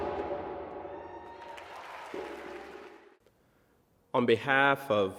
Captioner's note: audience cheering and applauding